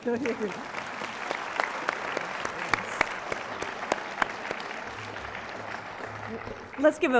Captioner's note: applause